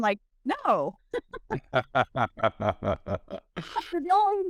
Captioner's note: laughs